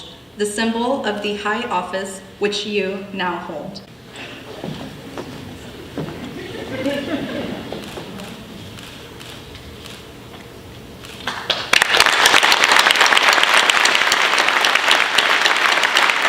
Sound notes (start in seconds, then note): 5.7 laughter; 11.2 applause